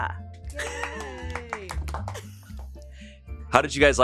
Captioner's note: cast cheers